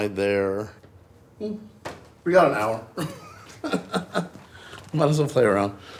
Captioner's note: chuckles